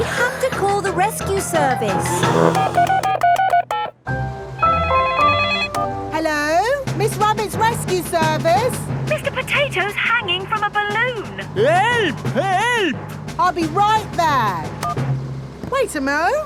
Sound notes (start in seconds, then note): 2.0 beeping; 4.8 phone ringing